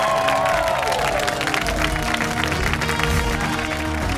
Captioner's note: cheers and applause